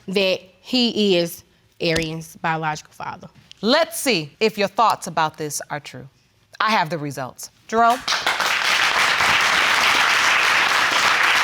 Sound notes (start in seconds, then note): 7.8 audience clapping